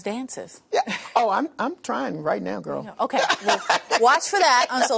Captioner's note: laughter